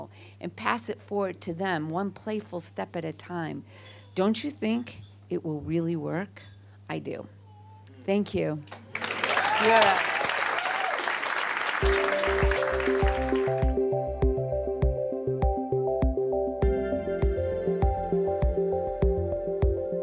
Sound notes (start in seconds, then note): 8.8 audience applause; 11.8 upbeat music